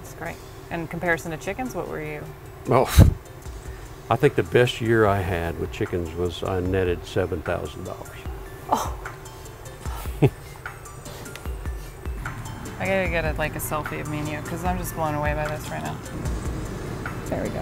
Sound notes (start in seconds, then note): 9.9 laughs